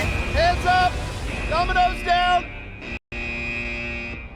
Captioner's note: buzzer